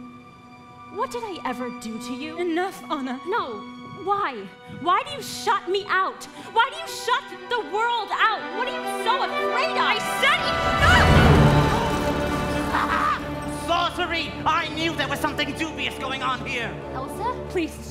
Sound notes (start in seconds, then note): 10.6 crowd gasps; 11.0 dramatic swishing